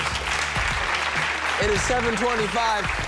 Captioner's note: applause